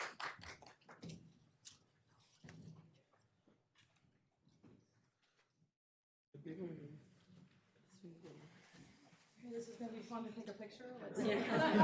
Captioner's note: applause